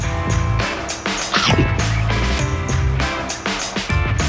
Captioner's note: cool electric guitar music; chomping